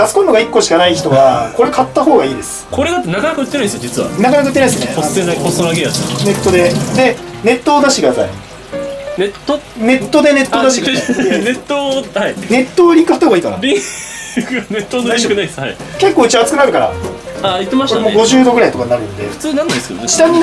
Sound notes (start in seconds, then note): 12.0 laughter